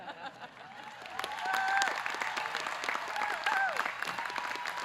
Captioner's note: audience cheering